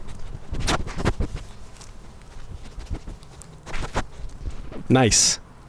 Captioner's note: sniff Sniff; sniff Sniff Sniff